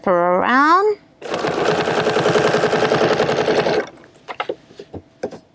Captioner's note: machine whirring